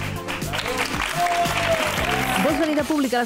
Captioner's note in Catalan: aplaudiments